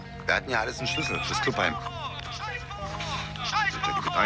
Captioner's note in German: Klingelton